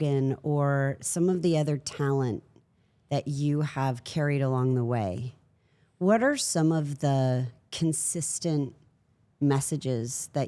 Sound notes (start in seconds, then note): none